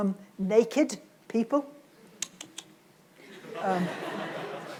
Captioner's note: clicks tongue; audience laughs